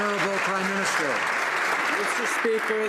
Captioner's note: some Applause